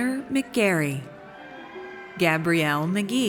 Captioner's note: audience cheers